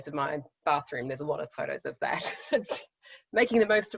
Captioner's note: laughs